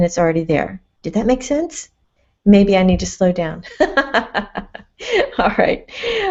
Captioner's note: laughs